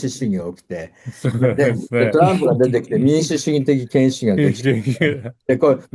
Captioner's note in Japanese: 笑い